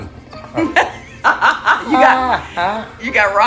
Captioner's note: laughter